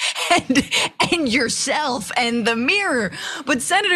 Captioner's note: laugh